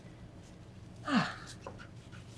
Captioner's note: sighs